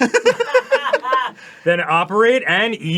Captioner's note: mature laughter